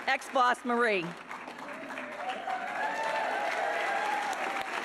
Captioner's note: audience applauding